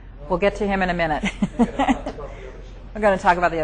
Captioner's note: chuckles